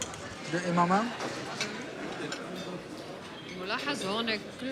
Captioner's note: speaking foreign language